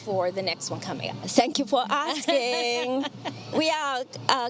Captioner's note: laughing